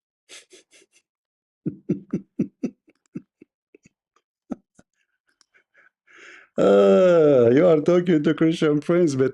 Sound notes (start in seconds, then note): 1.6 Ketawa